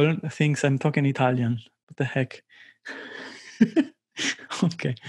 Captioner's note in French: rires